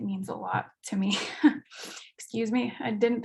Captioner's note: chuckles